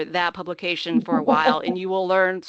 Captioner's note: laughing